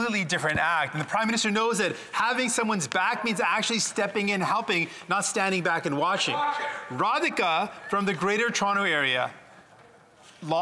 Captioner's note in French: voix de l'interprète